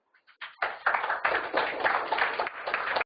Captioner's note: audience applauding